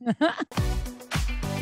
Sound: laugh

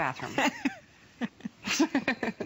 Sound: laughter

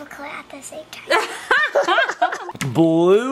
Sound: laugh

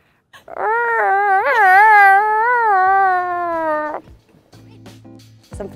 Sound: seal noises

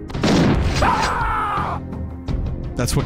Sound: stock male screaming sound

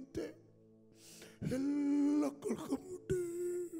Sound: crying

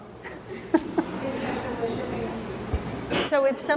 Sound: laughing

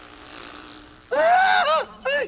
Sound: buzzing; shrieking; beeping

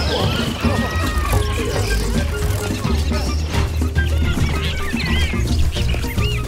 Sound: many toucans chittering; wings fluttering; birds swooshing; happy animal squeaks

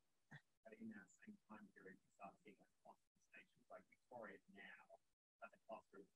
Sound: student speaking faintly

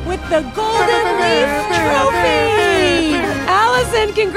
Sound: Allison and tWitch fake trumpeting

